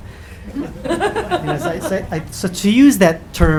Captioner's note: audience laughing